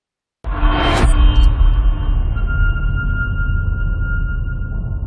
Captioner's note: dramatic sound